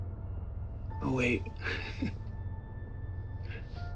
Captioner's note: chuckles